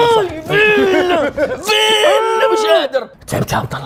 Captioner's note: grunting